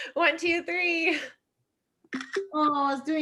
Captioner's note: camera shutter clicks